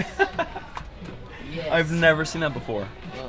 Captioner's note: laughs